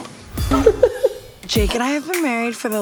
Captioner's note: laughing